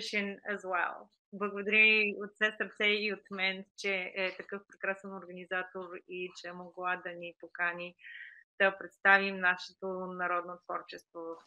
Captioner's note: foreign Language Spoken